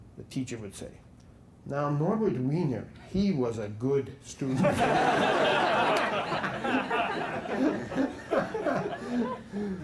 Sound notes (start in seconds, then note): 4.5 laughter